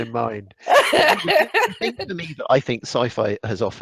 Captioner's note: laughs